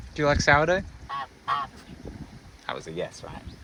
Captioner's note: goose noises